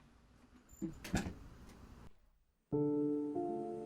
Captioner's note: door closing; soft piano music